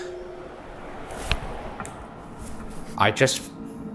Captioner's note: soft thudding